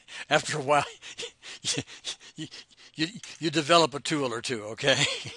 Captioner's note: laughs